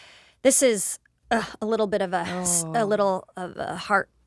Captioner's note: she grunts